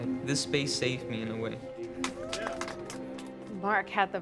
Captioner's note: clapping